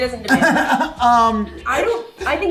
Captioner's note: laughs